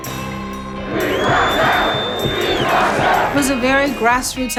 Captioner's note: crowd chanting